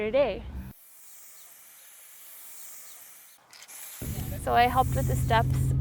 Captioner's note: spray can sounds